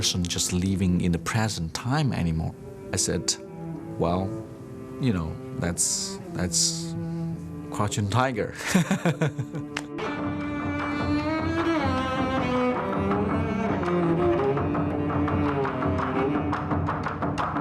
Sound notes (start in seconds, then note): 8.5 laughs